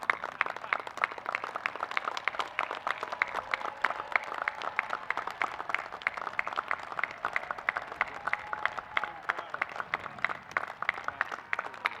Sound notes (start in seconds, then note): 0.0 applause